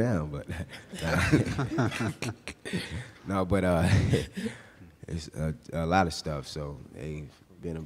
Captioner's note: laughing